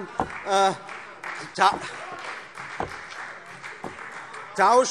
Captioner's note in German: Vereinzelter Beifall